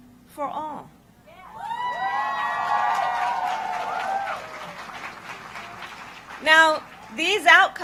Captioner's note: applause